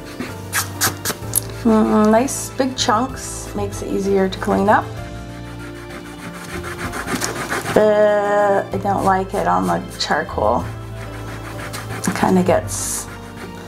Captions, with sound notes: (palm rubbing) Nice big chunks, makes it easier to clean up. (eraser rubbing) I don't like it on the charcoal. It gets